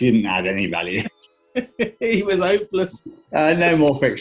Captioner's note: chuckling